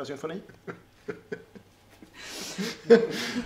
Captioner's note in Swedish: Skrattar